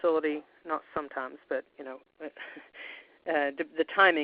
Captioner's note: chuckles